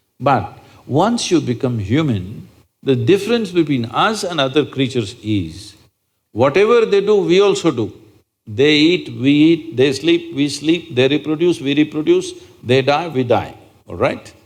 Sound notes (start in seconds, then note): none